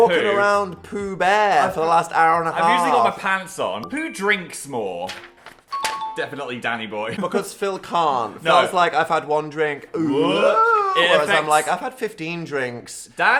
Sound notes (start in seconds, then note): 5.7 ding